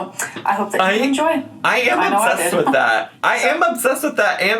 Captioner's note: chuckles